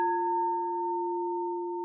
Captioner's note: chime